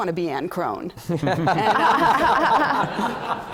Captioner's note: laughter